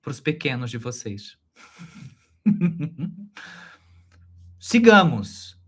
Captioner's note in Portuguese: Risos